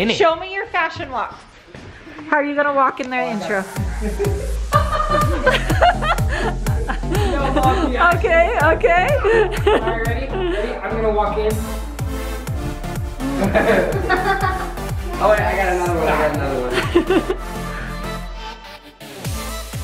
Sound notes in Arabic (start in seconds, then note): 4.4 موسيقى غير تقليدية; 5.8 يضحك الجميع; 13.2 يضحك الجميع